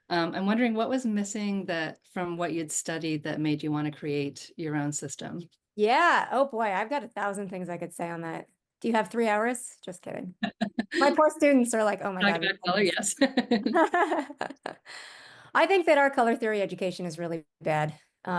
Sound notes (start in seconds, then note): 12.2 laughs